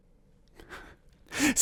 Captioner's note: laugh